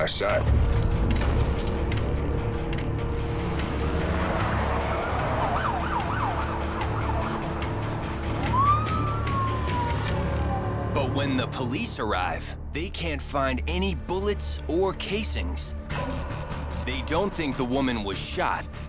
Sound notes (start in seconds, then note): 0.2 suspenseful music plays; 2.8 tires screeching; 5.1 siren wailing